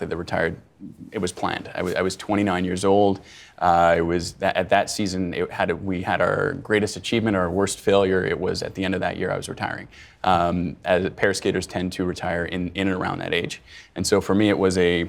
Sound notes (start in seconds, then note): none